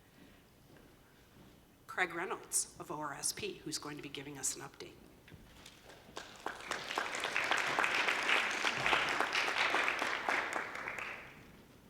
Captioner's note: applause